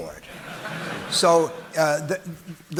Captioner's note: audience laughing